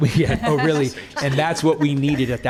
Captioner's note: laughing